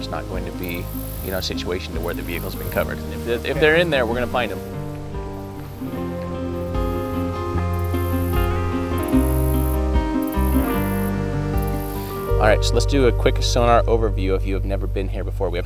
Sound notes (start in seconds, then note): 4.8 calm hopeful music; 4.8 water softly splashing